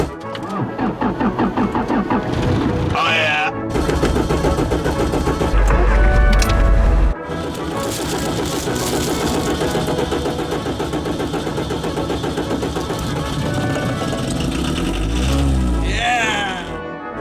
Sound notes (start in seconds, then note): 0.0 engine stutters, then starts; 3.6 engine stutters; 5.5 engine starts; 7.2 engine continues to stutter; 12.6 engine starts